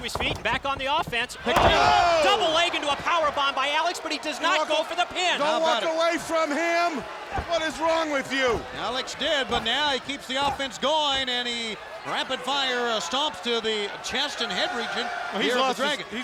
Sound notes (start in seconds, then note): 0.0 body thudding; 8.2 blows thudding